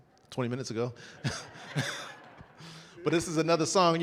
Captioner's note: audience laughing